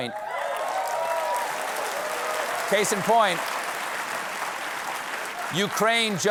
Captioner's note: cheers and applause